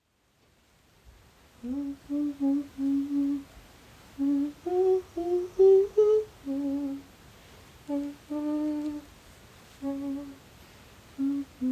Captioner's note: humming